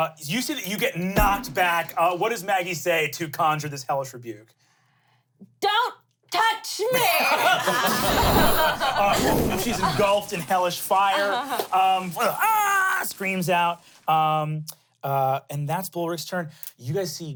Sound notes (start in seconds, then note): 6.9 everyone laughs; 12.2 screams